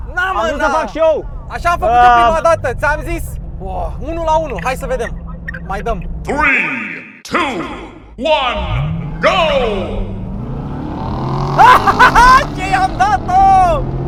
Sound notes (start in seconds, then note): 6.5 deep voice